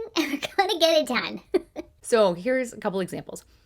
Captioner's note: giggling